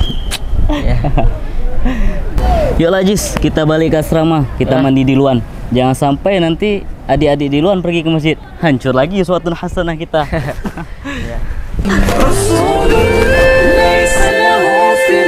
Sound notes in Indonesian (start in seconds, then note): 0.6 tertawa ringan; 11.8 tertawa